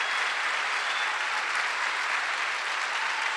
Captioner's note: applause